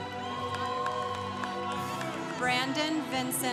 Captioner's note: congregation cheering